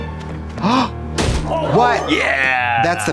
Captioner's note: dramatic orchestra music; Trixie gasps